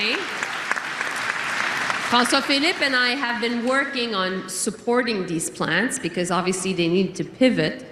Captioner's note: cheering and Applause